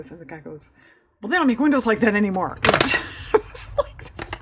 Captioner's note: laughs